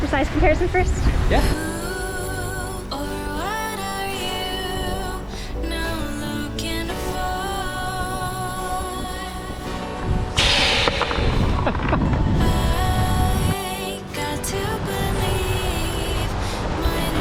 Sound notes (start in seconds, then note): 3.1 upbeat music; 10.3 air releases; 12.4 laughs